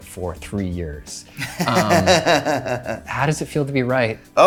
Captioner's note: laughing